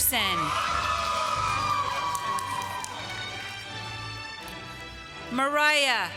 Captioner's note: applause